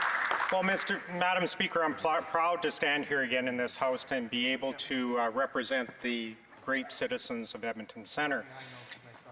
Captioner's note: some Applause